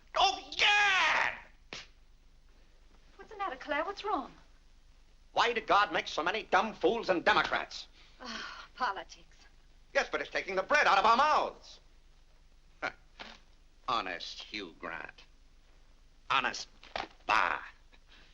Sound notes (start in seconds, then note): 8.3 Vinnie sighs; 12.9 scoffs